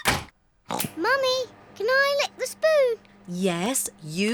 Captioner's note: oinks